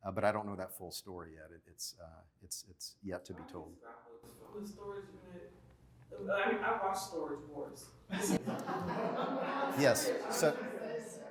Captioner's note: laughter